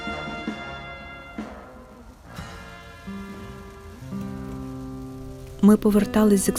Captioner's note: rain rustle